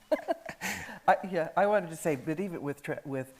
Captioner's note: laughs